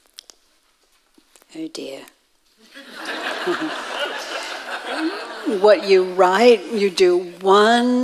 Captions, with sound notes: - Oh dear. (audience laughing) - What you write you do one.